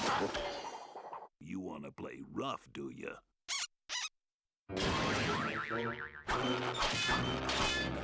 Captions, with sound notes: YOU WANNA PLAY ROUGH, DO YOU? [squeaking] [crashing]